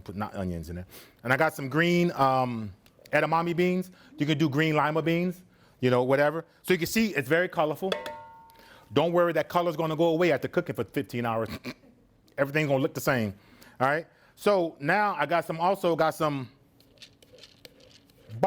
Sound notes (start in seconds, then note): 7.9 pot clangs; 11.4 laughs